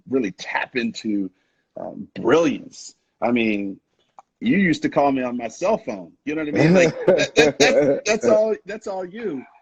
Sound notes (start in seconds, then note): 6.5 laughing